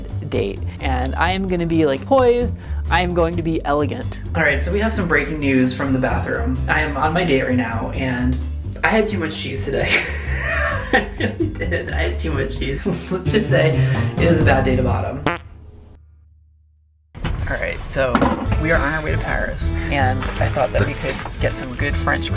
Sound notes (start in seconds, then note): 9.9 laughs; 15.2 flatulates